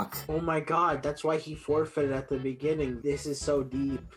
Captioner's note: mocking